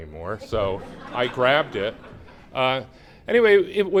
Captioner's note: laughter